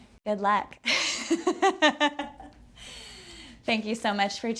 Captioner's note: laughter